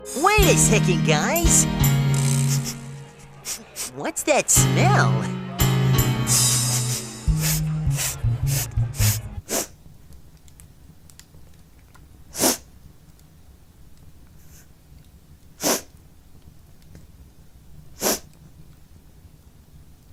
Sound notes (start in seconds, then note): 2.2 sniffs; 7.2 all sniffing; 9.4 crying sniffle; 12.3 crying sniffle; 15.6 crying sniffle; 18.0 crying sniffle